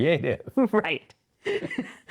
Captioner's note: both Laughing